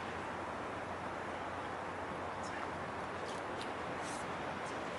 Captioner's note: speaking faintly